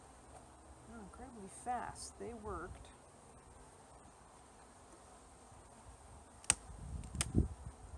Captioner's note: snapping propolis